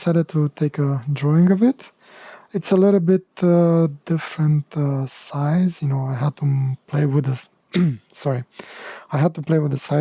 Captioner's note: clearing throat